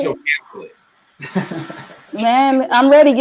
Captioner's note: laughing